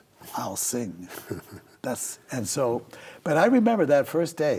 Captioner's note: chuckles